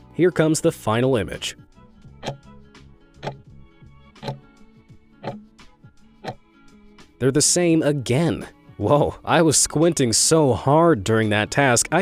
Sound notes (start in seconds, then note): 2.4 timer ticking